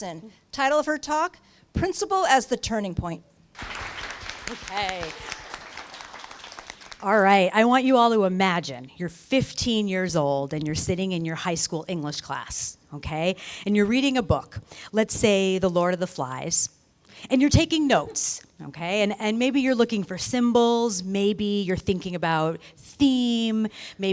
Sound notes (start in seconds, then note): 3.5 applause